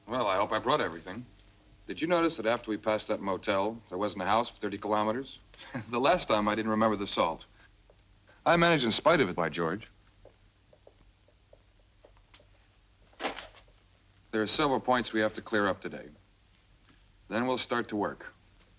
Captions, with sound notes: - Well, I hope I brought everything. Did you notice that after we passed that motel there wasn't a house for 30 kilometers? (chuckles) The last time I didn't remember the salt. I managed in spite of it, by George. There are several points we have to clear up today. Then we'll start to work.